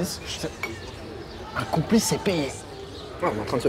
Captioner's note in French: chuchoté